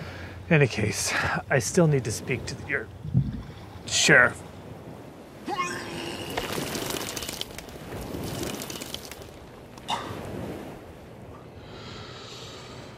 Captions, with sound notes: In any case, I still need to speak to your... sheriff. [VOMITING SOUND]